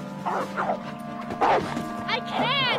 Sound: wolf barking

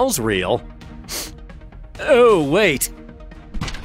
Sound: sniffing

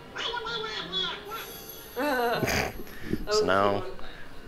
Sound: Donald Duck gibberish

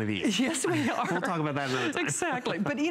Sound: laughter

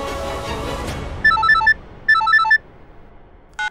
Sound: cellphone ringing

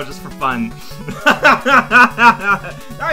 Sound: laughs

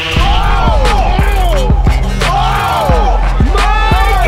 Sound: crowd cheering

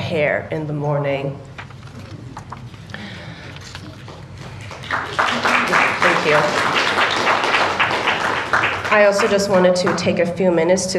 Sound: applause

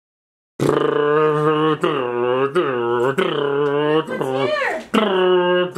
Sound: makes boat engine noises

